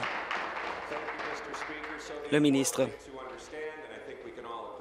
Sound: applause

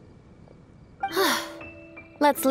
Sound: sigh

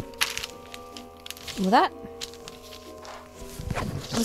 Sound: more rustling

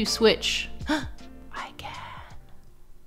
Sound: gasps

